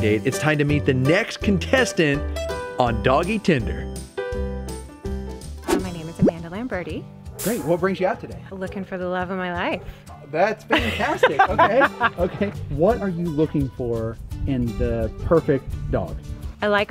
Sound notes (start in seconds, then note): 10.7 laughs